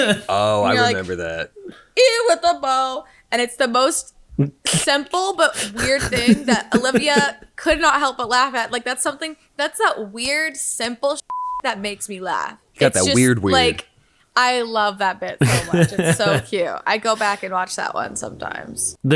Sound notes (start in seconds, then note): 0.0 laughing; 5.6 laughing; 11.3 beep; 15.4 laughing